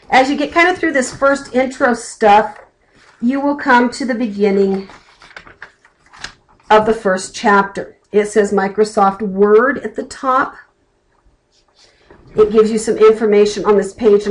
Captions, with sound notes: As you get kind of through this first intro stuff, [flipping pages] you will come to the beginning of the first chapter. It says Microsoft Word at the top. It gives you some information on this page,